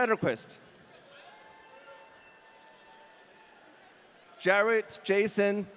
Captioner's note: audience cheering